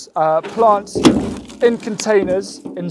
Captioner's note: wheelbarrow bangs